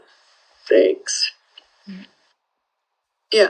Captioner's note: speaking emotionally